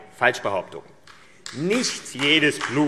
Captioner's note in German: Beifall AfD